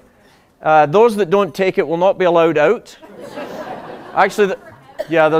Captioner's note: laughter